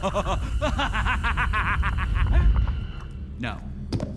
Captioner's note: laughs nervously; laughs evilly